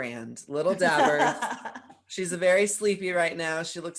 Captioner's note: laughs